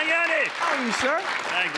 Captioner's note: applause